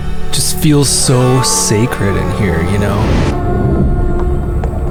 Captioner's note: voiceover